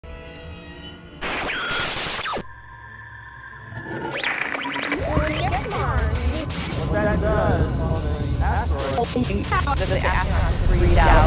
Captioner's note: sound Effects